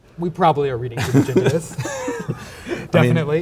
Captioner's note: laughs